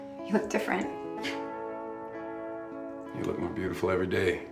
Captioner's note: laughs